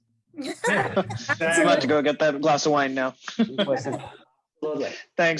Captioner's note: laugh